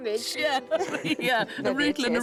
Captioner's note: laughs